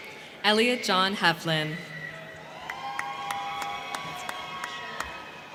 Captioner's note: crowd cheering